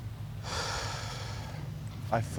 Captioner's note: sharp Exhale